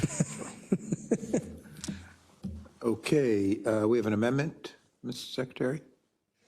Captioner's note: laugh